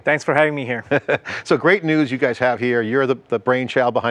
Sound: chuckles

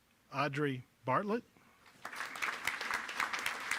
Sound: applause

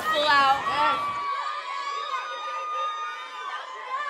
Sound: cheering

